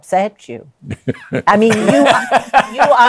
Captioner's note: laughs